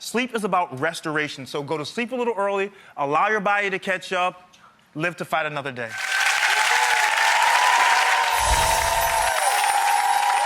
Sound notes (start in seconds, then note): 5.9 audience applause